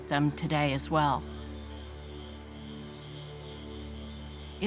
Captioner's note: crickets chirping